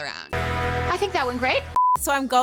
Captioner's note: electronic beeping